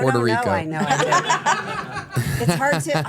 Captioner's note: everyone laughs